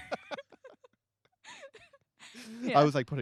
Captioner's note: laughter